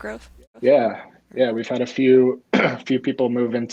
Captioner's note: clearing throat